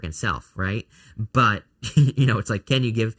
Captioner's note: laughs